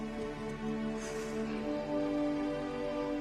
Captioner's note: exhales